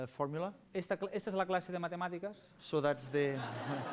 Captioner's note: non-english speech; laughter, applause